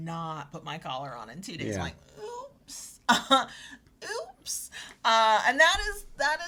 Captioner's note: chuckles